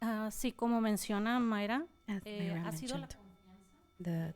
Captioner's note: panelist speaking in Spanish